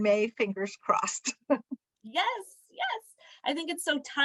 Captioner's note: laughter